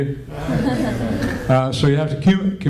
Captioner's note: laughter